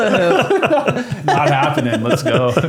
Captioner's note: laughing